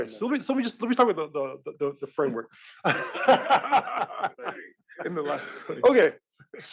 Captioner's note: laugh